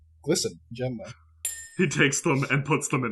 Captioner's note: clink